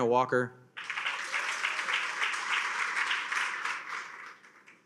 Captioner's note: attendees applaud